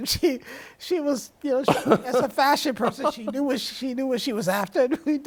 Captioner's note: laughs